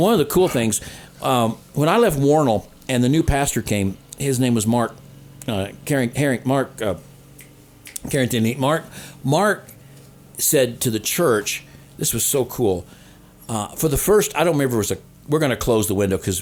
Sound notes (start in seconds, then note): 7.8 fingers snapping